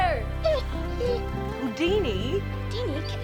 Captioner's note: dog whimpering